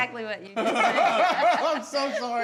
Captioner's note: everyone laughing